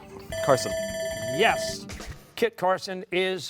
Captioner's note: bell ringing